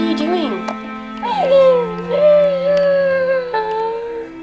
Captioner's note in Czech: Více breku